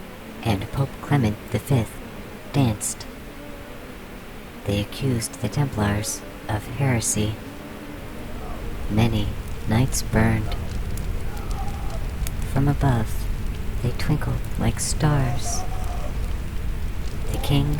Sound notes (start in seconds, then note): 6.7 the bee swarm gets quiet; 8.3 crackling fires rage all around; 10.1 men yelling, screaming, boiling, echo far and wide